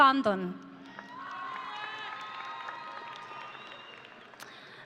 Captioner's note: audience cheering